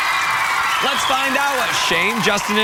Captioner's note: cheers and applause